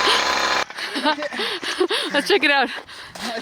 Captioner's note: laughing